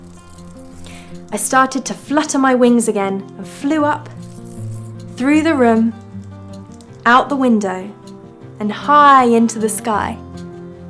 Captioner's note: zzzzzt; zzzzt